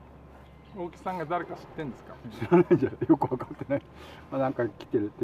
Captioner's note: laugh